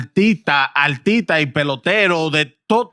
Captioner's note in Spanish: Hablando en idioma extranjero